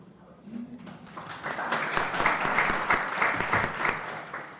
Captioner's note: audience applauding